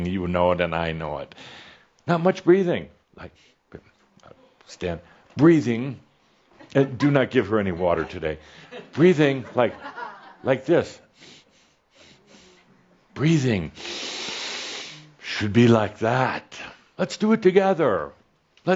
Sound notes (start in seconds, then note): 11.0 Adamus takes small short breaths; 11.1 Adamus takes a very deep breath